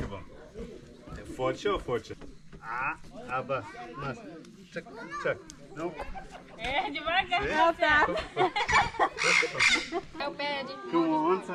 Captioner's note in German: gelächter